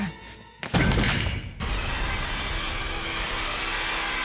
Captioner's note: the crunching sound of a bone snapping